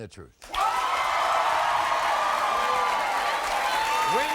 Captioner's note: crowd cheers